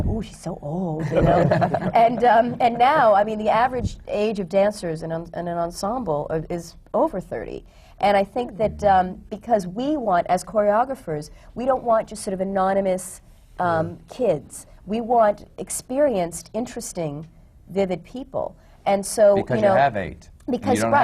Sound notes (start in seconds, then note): 1.0 laughter